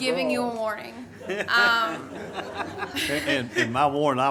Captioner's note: everyone laughs